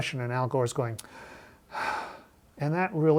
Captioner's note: sighs